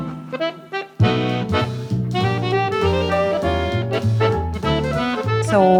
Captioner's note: indistinct conversations continue